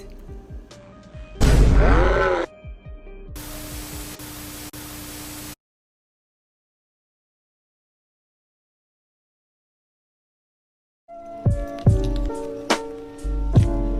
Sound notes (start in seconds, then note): 1.6 slo mo scream; 3.4 sounds of static; 13.6 chill lo-fi music plays throughout